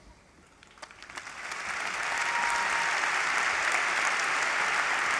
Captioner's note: applause